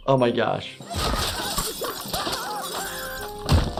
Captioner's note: Nutty and Russel screaming; Handy screaming